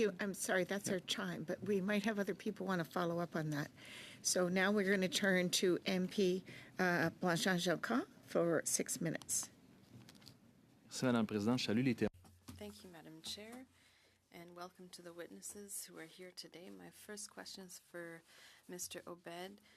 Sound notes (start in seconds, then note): 14.4 speaking French